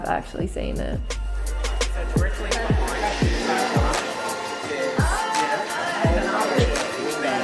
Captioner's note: people chattering